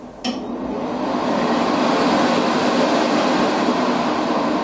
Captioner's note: hand dryer roaring